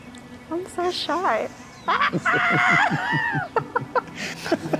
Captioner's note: exclaiming